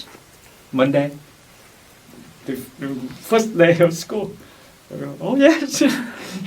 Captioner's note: laughs